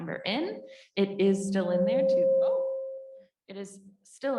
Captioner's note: microphone giving feedback